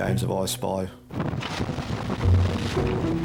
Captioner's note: wind swooshing; water splashing; uplifting instrumental music